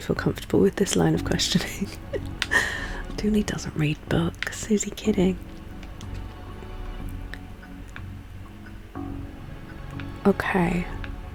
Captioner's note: laughs